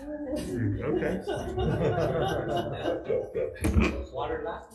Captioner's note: laughing